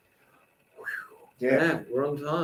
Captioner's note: exhales